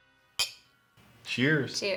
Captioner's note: glass clangs